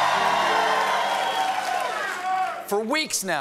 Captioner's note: cheers and applause